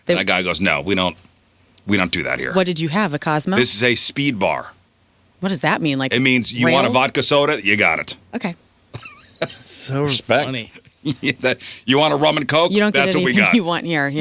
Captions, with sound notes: And that guy goes, no, we don't do that here. What did you have, a Cosmo? This is a speed bar. What does that mean? It means you want a vodka soda, you got it. Okay. (laughing) So respect. You want a rum and coke? That's what we got. You don't get anything you want here.